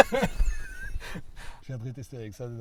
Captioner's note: laughters